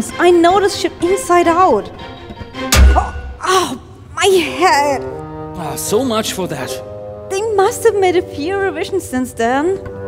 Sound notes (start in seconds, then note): 2.7 bonk